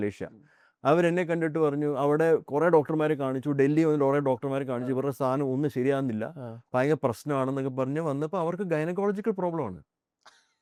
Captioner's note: laughs